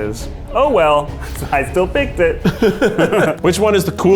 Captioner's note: laughs